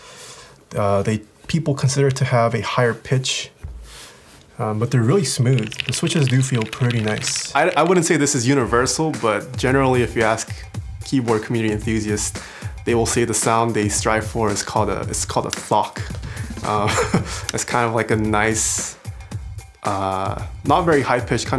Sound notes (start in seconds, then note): 16.5 laughs